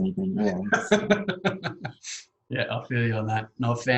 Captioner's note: laughs